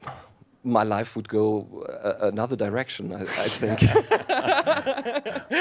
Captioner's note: laughter